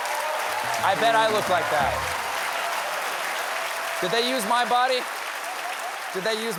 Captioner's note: applause